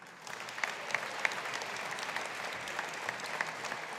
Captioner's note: audience applauding